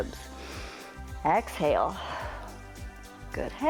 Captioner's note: exhales; inhales